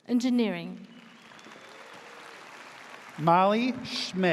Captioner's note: audience cheers